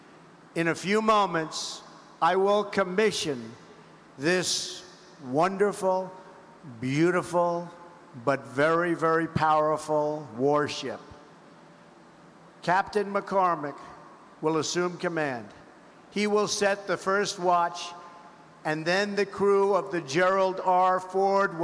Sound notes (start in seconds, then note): none